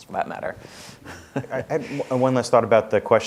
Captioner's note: chuckling